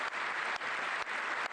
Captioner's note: applause